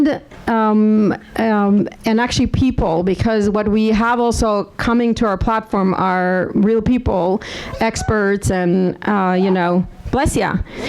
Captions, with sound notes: and actually people because what we have also coming to our platform are real people experts, (audience member sneezes) bless ya,